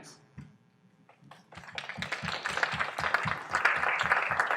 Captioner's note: applause